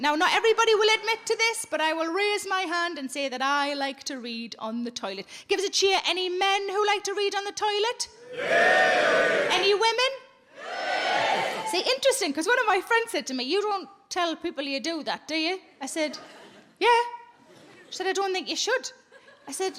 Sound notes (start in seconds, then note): 8.4 men cheering; 10.6 women cheering